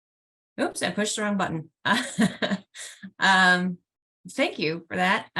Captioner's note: laughs